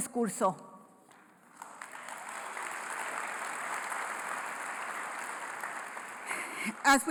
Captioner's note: applause